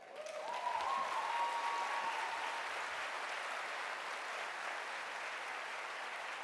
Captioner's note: applause